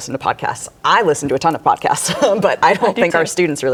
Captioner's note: laughs